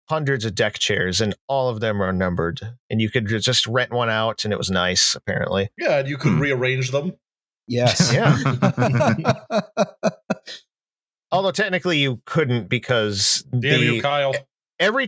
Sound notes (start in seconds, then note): 7.8 laughs